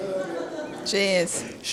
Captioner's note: laughter